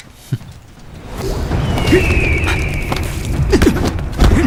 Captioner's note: rainwater pounds on the ground